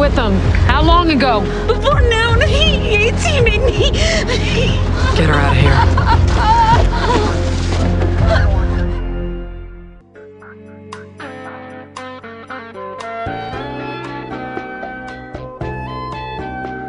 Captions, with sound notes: - All right, well, you were with them. How long ago? - Before noon. He--Yates, he made me-- [crying] - Get her out of there. [Bronwyn continues sobbing]